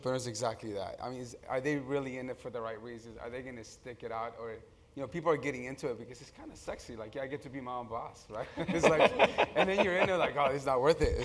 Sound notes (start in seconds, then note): 8.6 laugh